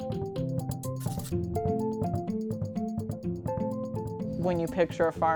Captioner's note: pen scratches